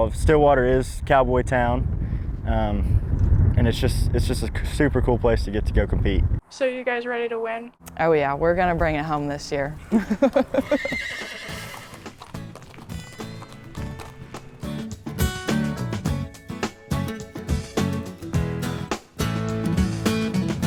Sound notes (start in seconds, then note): 9.8 laughs; 9.8 horse neighing; 11.9 footsteps clacking; 14.5 upbeat music